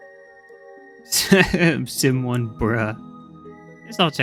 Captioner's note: laughs